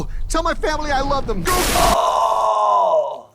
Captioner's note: liquid splashing